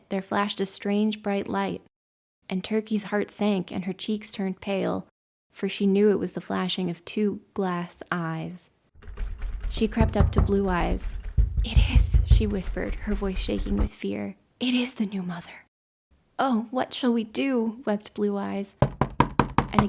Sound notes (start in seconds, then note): 9.0 knocking, door handle rattling